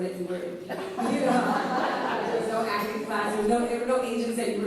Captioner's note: laughs